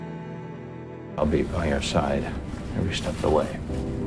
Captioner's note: voiceover